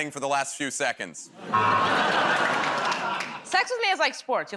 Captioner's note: laughter, buzzer